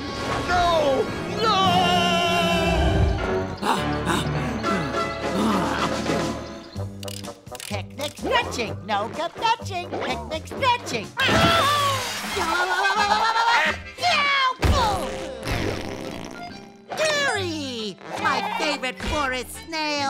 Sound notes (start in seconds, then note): 13.3 screaming